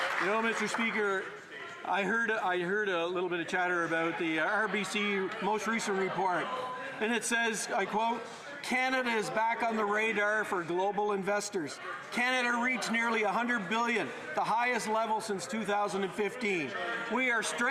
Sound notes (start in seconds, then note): 0.0 some Applause